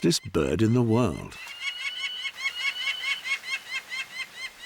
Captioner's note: falcon chirping